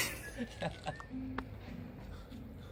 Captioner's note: laughs